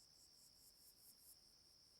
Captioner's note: insects buzzing